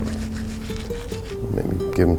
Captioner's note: paint scratching